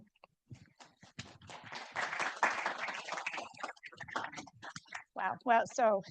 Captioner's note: audience applauding